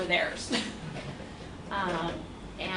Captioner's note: laughs